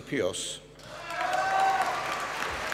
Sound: applause

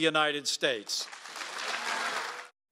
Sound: cheering and applause

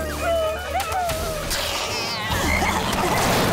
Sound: screeching

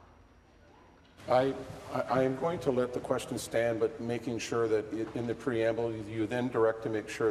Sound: some Applause

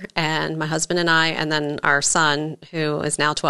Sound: none

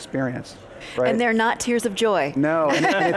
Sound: chuckles

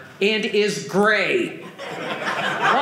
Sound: audience laughing

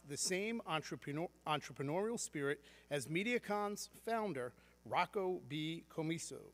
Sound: none

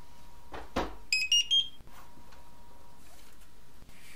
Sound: registration beep

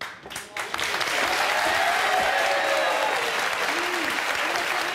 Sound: audience cheers and applauds

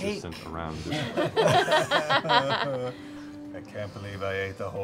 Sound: laughter

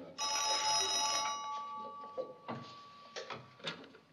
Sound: phone ringing

